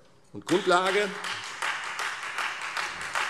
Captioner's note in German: Beifall Freie Demokraten